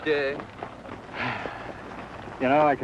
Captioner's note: sighs